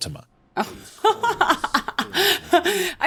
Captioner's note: laughs